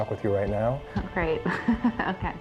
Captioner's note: laughing